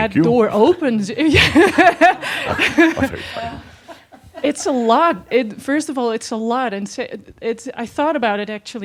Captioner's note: she chuckles